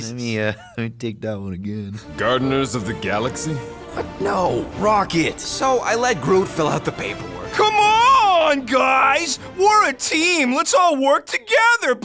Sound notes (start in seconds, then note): 7.4 mocking tone